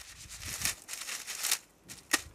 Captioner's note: rustling